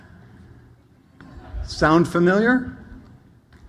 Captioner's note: audience laughs